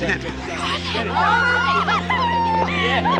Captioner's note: squealing